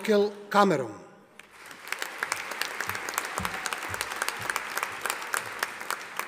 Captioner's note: audience applauding